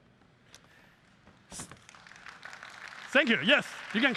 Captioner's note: applause